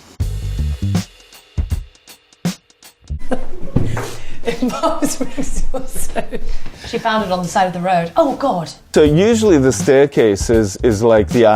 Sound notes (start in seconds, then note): 0.1 slow jazz music; 3.2 Poppy laughs